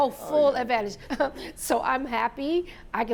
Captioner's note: laughs